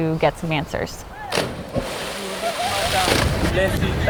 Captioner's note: splashes